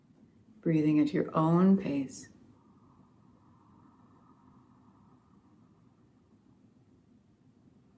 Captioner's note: very light oceanic sound on inhale; very light oceanic sound on exhale